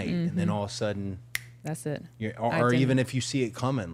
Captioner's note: fingers snap